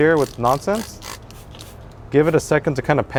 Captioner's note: spraying loudly